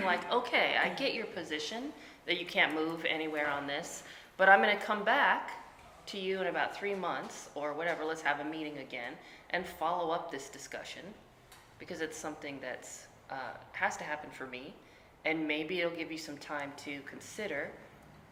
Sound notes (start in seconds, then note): none